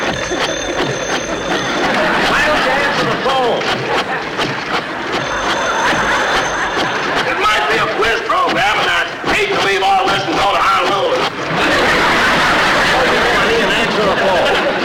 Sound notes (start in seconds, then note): 0.0 phone Ringing; 1.7 audience Laughing; 3.7 apparatus Creaking; 4.8 phone Ringing; 11.4 audience Laughing